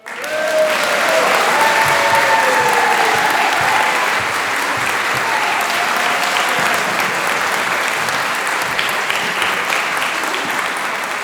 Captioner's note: applause